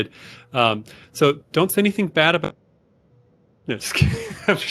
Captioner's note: chuckle